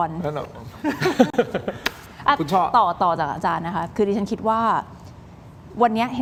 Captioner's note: laughs